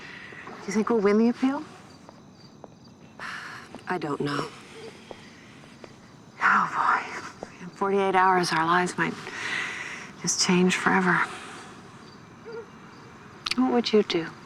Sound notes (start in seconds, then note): 3.2 sighs; 4.2 exhales